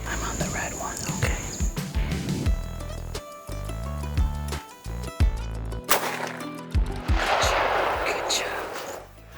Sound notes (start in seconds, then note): 7.0 rifle bangs